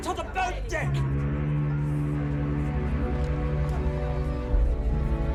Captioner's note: ship horn blaring